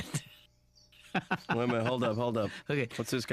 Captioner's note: laughing